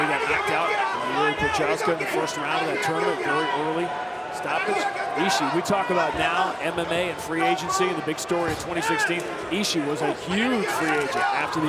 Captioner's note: crowd noise